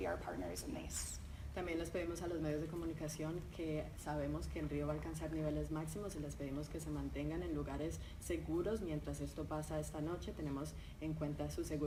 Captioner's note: talking in Spanish